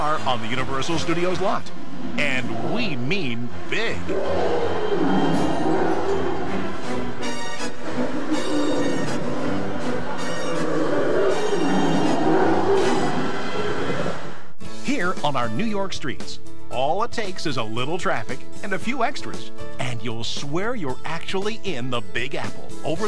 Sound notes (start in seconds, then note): 4.0 roaring; 6.5 thrilling music